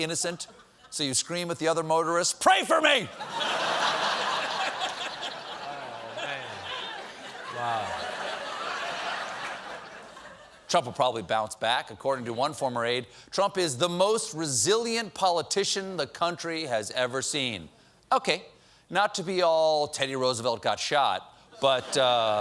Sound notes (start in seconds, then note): 3.1 laughter